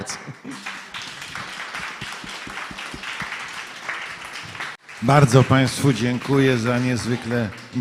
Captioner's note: applause